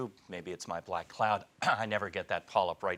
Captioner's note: clears throat